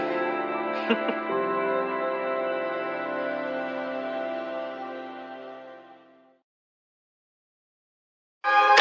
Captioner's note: laughing